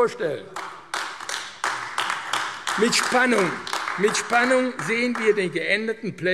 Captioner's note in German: Beifall AfD